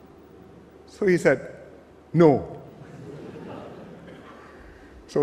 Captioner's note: laughter